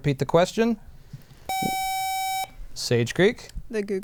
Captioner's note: buzzer